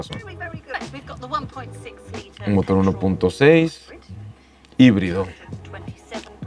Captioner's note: woman speaking in English